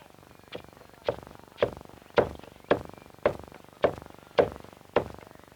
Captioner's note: tap, tap, tap, tap, tap, tap, tap, tap, tap